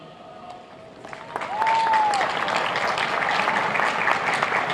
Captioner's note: applauding